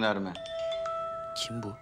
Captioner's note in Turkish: Telefon Çalıyor